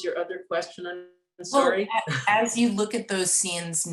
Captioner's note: laughs